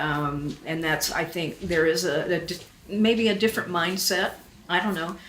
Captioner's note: none